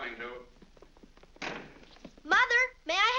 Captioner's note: feet pattering down stairs; door slams